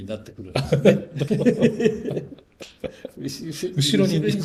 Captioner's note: laughs